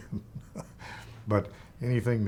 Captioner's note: chuckling